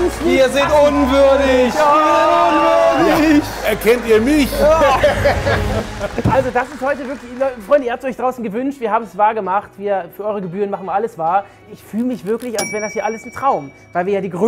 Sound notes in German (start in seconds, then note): 2.6 Jammernde Rufe; 3.2 Lachen